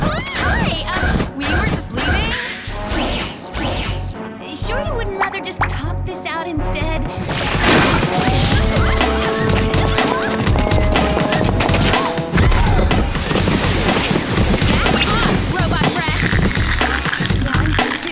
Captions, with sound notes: Oh, hi, um, we were just leaving. Are you sure you wouldn't rather just talk this out instead? [grunting and gasping] [gasping] Back off, robot breath.